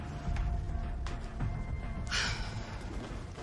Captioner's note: sighs